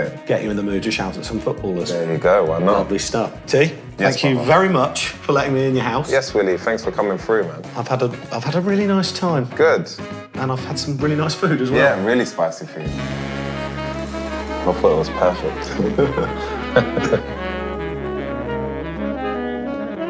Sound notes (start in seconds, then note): 15.6 laughter; 17.9 music trails off